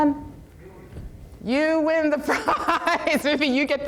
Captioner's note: laughs